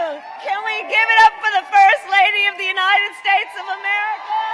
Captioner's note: applause